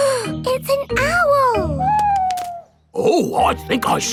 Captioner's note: gasps